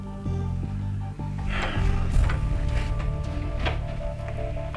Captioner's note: Jason sighs